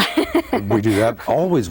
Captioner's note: laughs